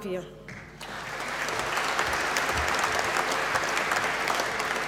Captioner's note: applause